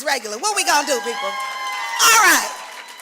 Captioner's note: louder cheering